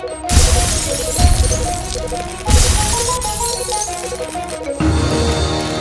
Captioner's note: glass breaking and explosions; instrumental music